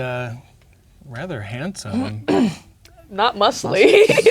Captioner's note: clears throat